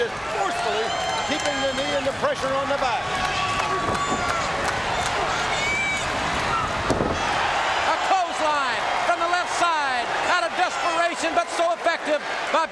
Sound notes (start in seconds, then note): 3.9 audience cheering